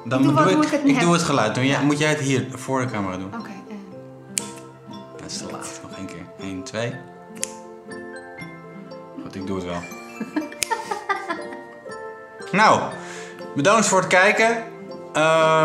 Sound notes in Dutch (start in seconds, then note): 4.3 klik; 7.4 klik; 10.0 gelach